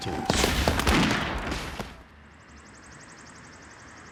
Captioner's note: guns firing